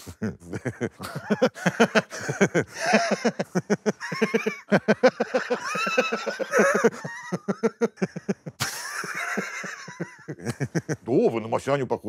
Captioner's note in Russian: усмехается; смеется